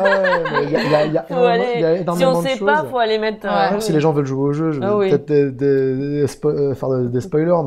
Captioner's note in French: rire